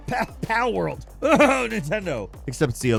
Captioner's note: mock coughs